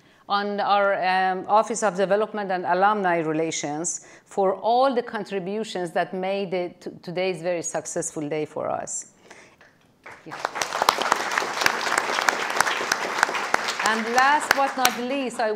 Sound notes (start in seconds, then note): 10.0 audience applauding